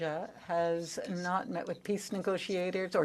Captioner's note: speaking French